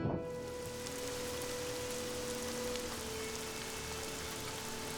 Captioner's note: rain pours